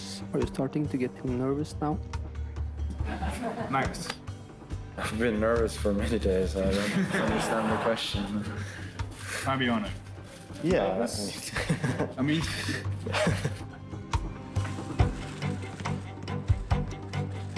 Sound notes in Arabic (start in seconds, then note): 3.0 يضحك المراسلون; 11.3 فابيانو يضحك; 15.0 موسيقى متوترة